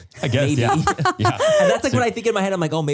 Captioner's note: all laugh